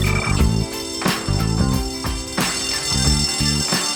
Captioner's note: bell ringing